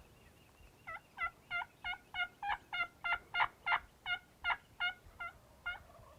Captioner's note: turkey gobbling and birds chirping